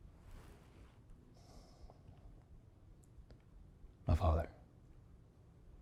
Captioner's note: sighs